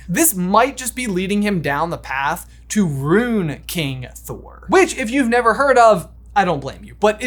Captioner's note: none